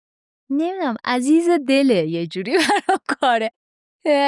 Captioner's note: laughs